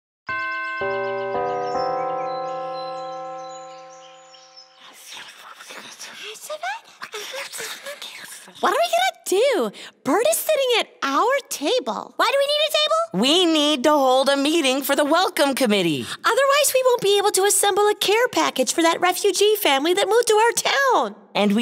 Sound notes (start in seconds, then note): 0.3 bells chime; 2.7 birds chirping; 5.2 characters whispering